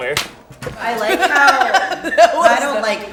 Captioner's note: laughs